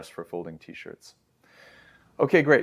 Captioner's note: inhales